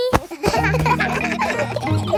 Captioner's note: kids laughing